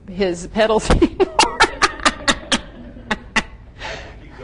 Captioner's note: gently laughs